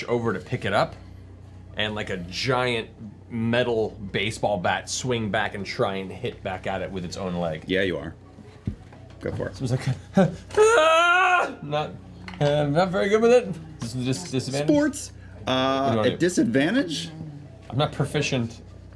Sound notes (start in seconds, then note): 10.4 yells